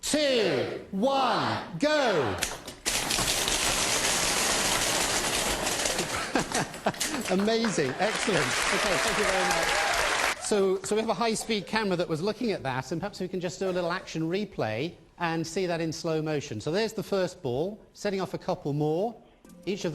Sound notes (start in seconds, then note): 2.6 ping pong balls rattling inside tank; 8.5 audience applauds